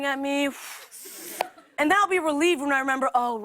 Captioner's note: breathes deeply